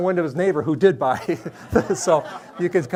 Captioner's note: everyone laughs